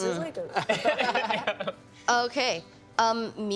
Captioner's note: laughing